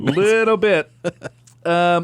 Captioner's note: laughs